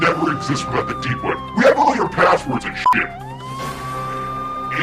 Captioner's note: beeping